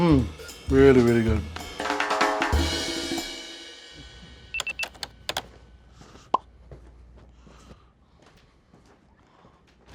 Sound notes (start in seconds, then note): 1.9 jazzy music; 4.5 typing on keyboard